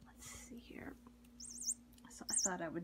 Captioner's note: toy squeaks